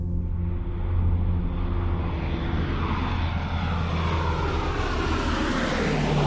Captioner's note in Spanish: Ruido del avión